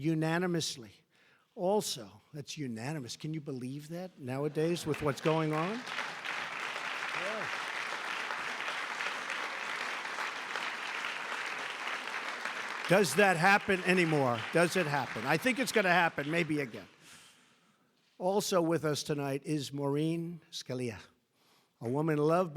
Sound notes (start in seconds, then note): 12.8 applause